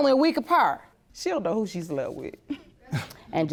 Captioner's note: scoffs